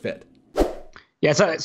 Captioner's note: swooshes in